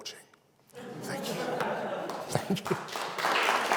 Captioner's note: audience laughs